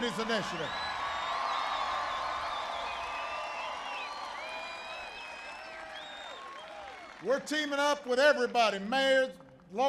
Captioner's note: applause